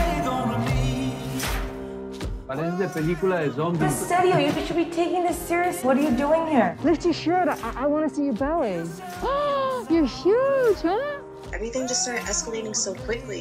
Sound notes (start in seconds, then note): 1.9 speaking in spanish; 9.0 gasps